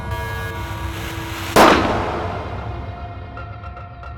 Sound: alarm; gun shot

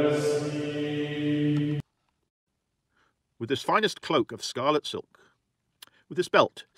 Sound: chanting

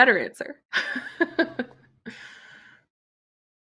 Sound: laughs

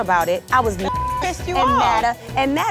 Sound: beep

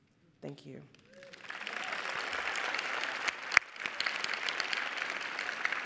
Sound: audience applauding

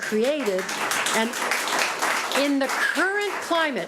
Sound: audience applauds

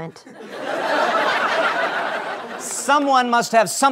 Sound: laughter

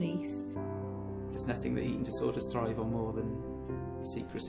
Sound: voiceover

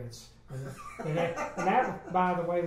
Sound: laughs

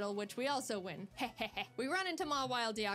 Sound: evil laugh

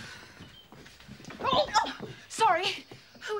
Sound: shouting

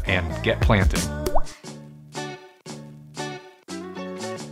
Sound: water drop sound

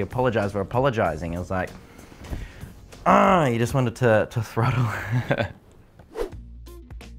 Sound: laughs

